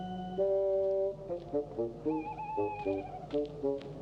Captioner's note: birds warbling